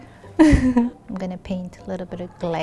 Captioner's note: laughing